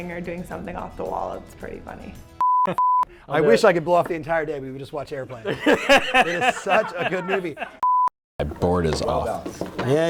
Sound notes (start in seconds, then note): 2.4 beep; 5.4 laughter; 7.8 beep